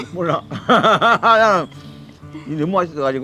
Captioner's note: both laughing